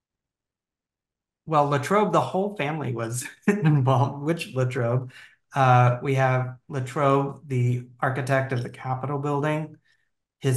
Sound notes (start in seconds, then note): 3.4 laughing